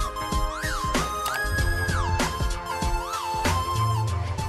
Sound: mouse click

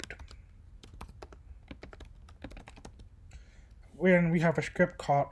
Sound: typing

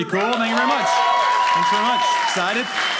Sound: audience cheering

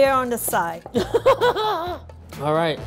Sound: laughing

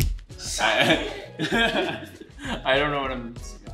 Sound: awkward laughing

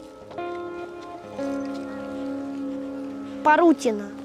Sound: sounds of air alarm

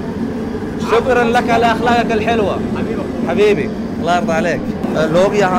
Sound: Arabic

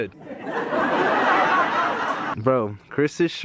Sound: laugh track

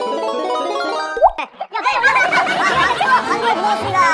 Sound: filled with laughter

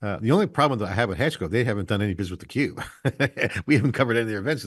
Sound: laughs

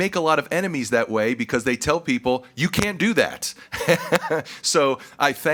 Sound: chuckles

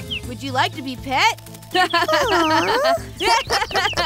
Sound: laughs

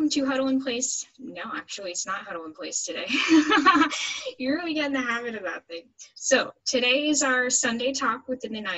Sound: laughs

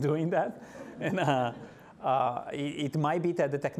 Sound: laughing

